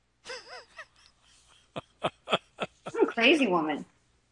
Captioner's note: laughs